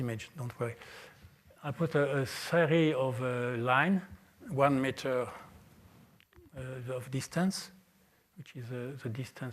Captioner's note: french